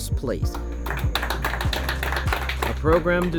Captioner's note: applauding